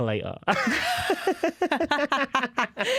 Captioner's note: laughter